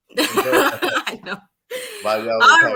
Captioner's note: laughs